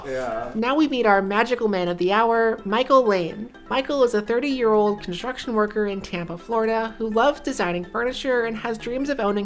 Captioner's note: none